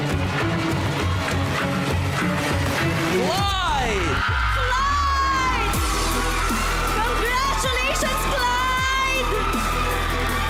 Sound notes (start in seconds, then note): 0.1 tense music continues; 6.1 cheering, applauding